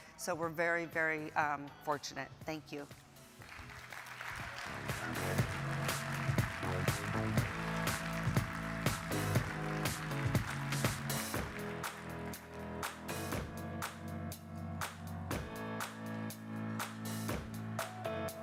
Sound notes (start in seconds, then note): 3.8 audience applauding; 5.3 upbeat music